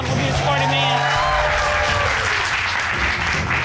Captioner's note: audience cheers, applauds